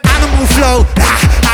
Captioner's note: hrragh